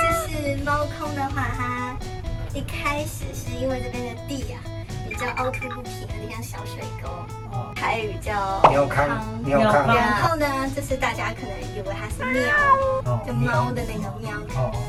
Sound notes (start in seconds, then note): 12.2 Meow